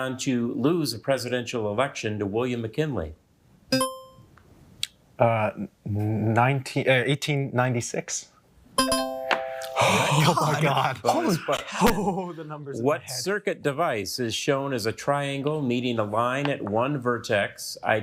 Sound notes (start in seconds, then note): 3.8 buzzer ringing; 8.8 bell ringing